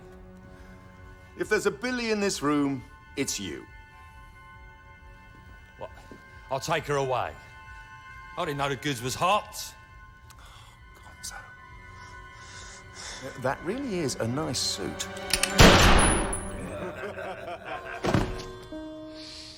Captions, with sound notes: IF THERE'S A BILLY IN THIS ROOM, IT'S YOU. WELL, I'LL TAKE HER AWAY. I DIDN'T KNOW THE GOODS WAS HOT. OH, GONZO. THAT REALLY IS A NICE SUIT. - ( gunshot ) - ( laughter )